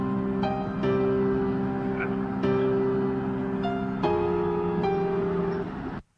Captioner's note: distant police sirens